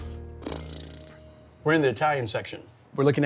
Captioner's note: lips sputter